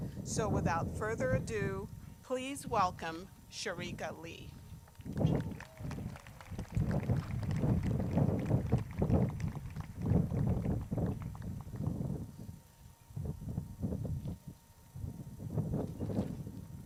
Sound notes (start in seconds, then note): 4.9 crowd claps